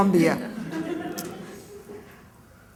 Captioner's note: laughter